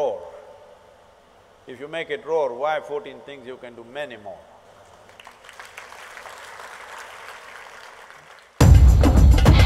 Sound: applause

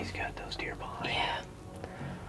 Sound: whispering

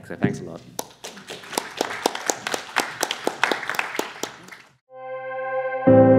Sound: applause

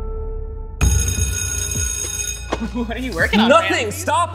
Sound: sustained piano note; bell ringing

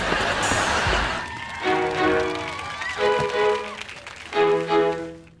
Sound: music playing, applauding

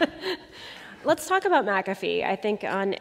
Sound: laughter

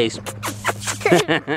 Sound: smooching noises; laughs

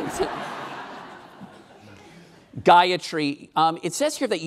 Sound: laughing

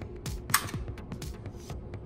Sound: camera click

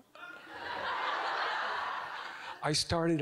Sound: audience giggling

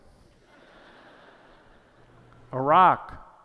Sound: laughter

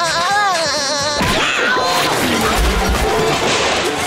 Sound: screaming; laughing

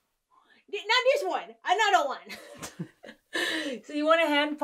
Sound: laughs

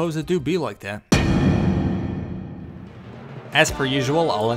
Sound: impact sound effect

